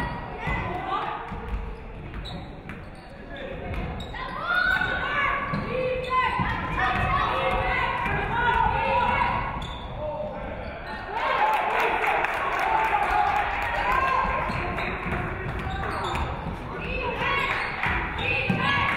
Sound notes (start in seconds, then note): 7.8 audience cheering; 11.1 audience clapping